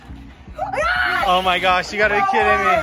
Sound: yells

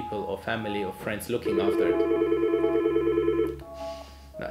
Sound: phone rings

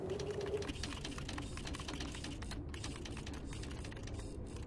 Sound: wind howling; typewriter clacking, whirring

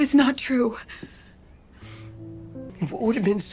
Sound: sniffles

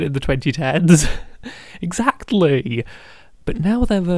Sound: laughing

